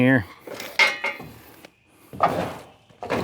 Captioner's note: metal Clanking